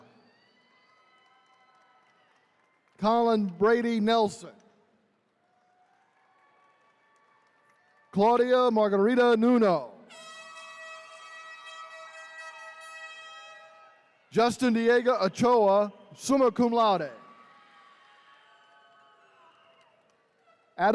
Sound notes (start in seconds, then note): 0.0 attendees cheering; 5.4 attendees cheering; 10.1 horn blaring; 11.2 attendees cheering